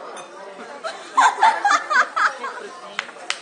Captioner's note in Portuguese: Risos